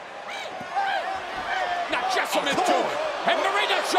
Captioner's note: crowd chatter